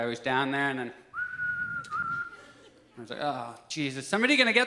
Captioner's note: whistles